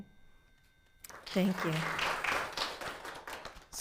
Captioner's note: audience applauding